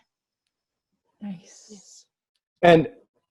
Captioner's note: whispers